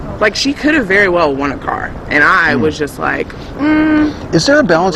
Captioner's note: skeptical noise